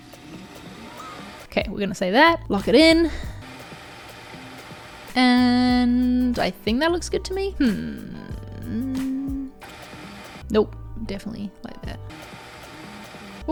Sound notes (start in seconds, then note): 0.0 tape fast-forwarding; 3.4 tape fast-forwarding; 9.5 tape fast-forwarding; 12.0 tape fast-forwarding